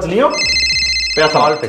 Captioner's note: call Ringing